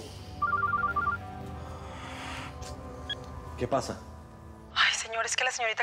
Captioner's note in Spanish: suena el celular